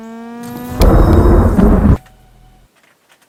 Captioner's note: thunder